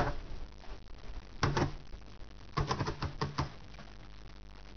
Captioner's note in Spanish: Tecleo